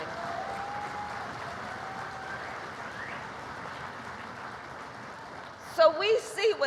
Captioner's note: applause